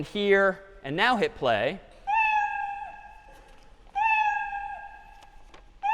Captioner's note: meowing